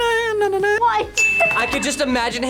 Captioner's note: laughs